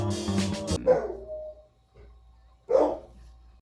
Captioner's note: dog old man barking in the background